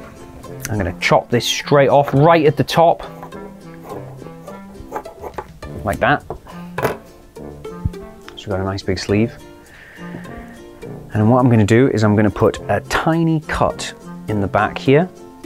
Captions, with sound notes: I'm going to chop this straight off, right at the top, [SCISSORS SNIP] Like that. [SCISSORS CLUNK] So we've got a nice big sleeve. And what I'm going to do is I'm going to put a tiny cut in the back here,